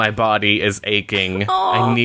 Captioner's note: laughs